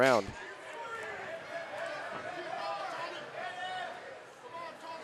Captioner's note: audience cheering